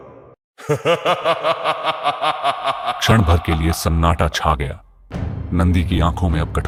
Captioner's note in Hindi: हंसी